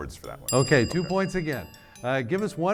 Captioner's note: bell dings